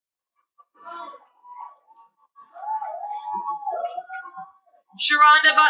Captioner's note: cheering